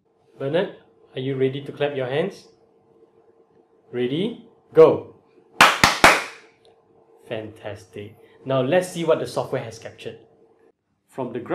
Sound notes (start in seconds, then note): 5.6 clap, Clap, Clap